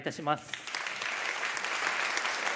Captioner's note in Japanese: 拍手